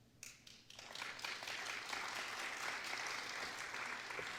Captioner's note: applause